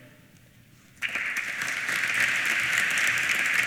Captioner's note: applause